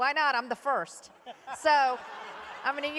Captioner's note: laughter